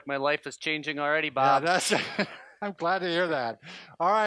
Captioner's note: laughing